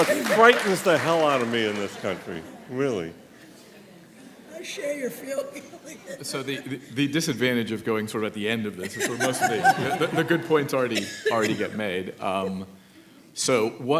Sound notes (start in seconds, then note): 8.9 laughs